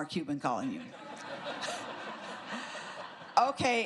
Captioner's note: laughter